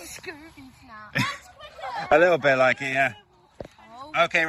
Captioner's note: laughs